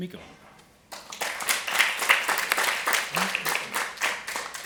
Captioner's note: applause